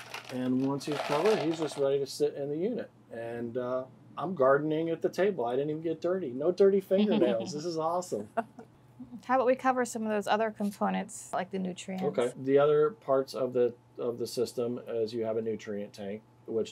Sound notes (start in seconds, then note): 7.0 laughs